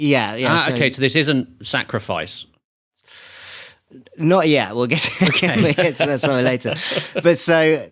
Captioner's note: laughing